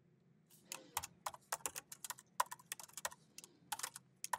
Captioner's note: keyboard clacking